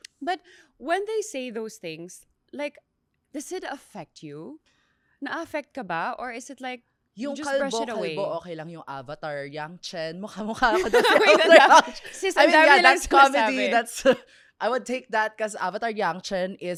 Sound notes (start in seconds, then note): 10.7 laughs